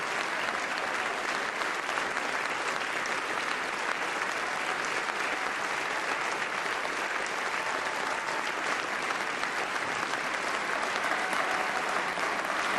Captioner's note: applause; cheers and applause